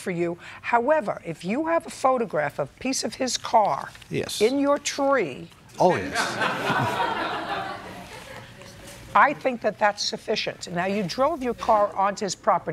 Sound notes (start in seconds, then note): 5.9 laughter